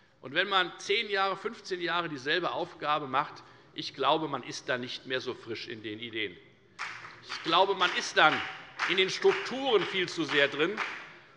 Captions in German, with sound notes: Ich glaube, wenn man 10 oder 15 Jahre dieselbe Aufgabe hat, ist man dann nicht mehr hinsichtlich der Ideen so frisch. [Beifall bei der FDP] Ich glaube, man ist dann viel zu sehr in den Strukturen drinnen.